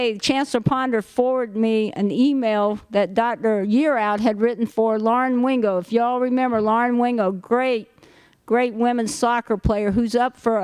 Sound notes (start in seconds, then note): none